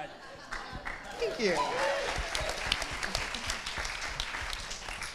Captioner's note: audience clapping